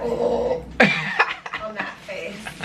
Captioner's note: laughter